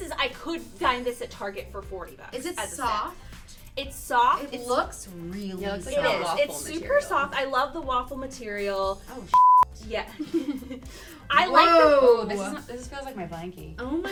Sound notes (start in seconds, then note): 9.3 beep